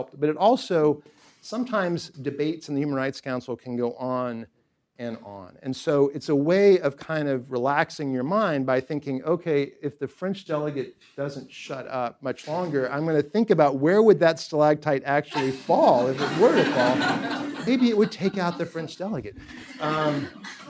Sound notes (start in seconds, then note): 16.9 laughter